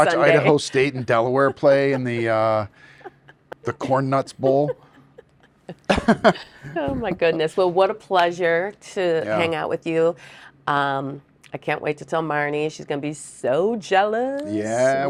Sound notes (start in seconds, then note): 4.8 people laughing